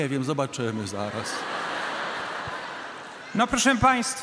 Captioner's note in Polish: śmiech publiczności